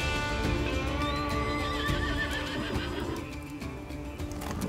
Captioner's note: horses neigh